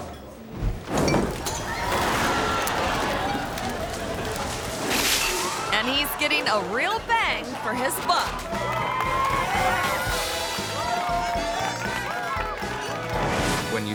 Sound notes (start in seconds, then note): 1.3 audience groans; 4.1 fire crackles; 10.2 exciting music